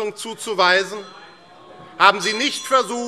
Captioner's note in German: Zurufe - Glockenzeichen